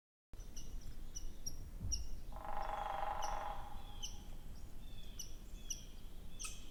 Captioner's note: birds chirping; woodpecker pecking